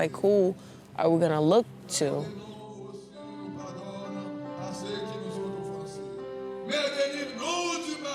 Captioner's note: man speaking Haitian Creole